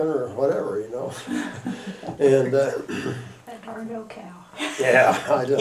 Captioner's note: laughter